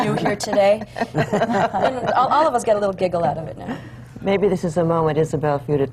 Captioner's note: laughter